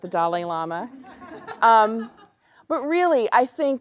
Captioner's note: laughter